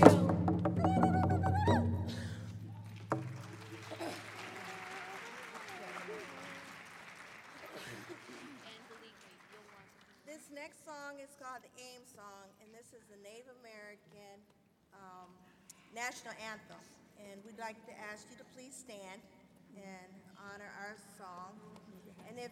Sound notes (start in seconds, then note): 2.8 applause